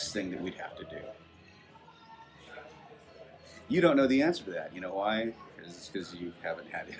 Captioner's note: long pause